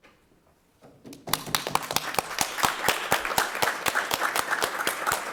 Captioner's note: directors applauding